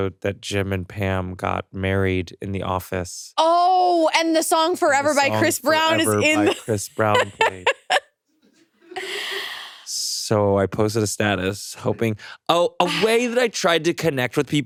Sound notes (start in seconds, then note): 7.9 laughs